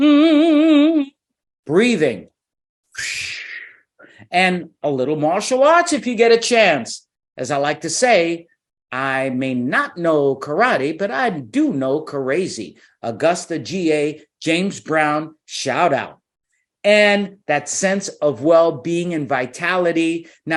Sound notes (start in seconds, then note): 0.0 humming; 2.8 whooshing